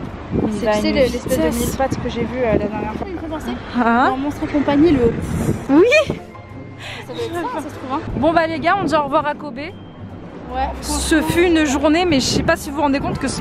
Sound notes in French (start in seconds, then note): 5.6 rire